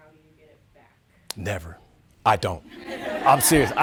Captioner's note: audience laughing